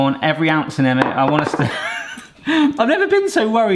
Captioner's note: bowl clatters; laughs